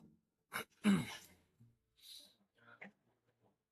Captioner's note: hắng giọng